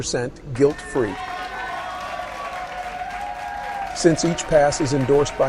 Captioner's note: audience cheers excitedly